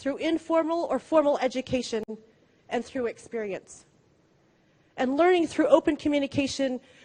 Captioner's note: none